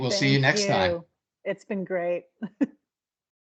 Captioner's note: chuckling